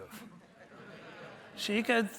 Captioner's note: audience laughing